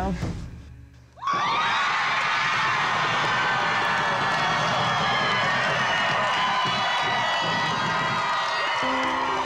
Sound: cheering

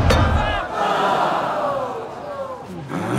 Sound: all groan

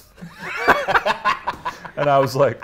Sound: both laugh

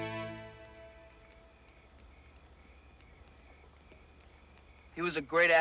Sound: crickets chirping

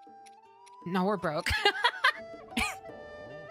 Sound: laughter

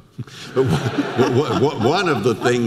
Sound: audience laughter

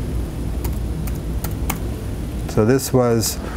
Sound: computer keys click

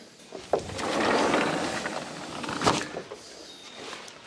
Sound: door sliding

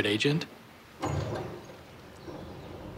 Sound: door opens

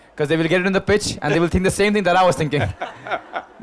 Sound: Sadhguru laughs

